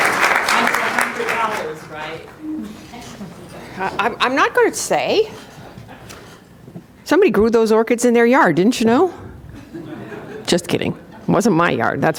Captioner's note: applause